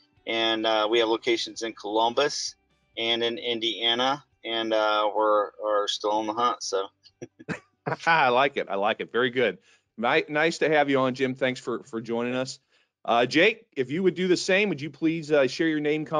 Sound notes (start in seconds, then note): 7.8 laughing